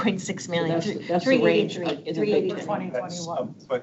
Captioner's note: board members murmuring